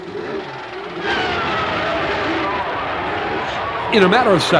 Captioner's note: brakes squeal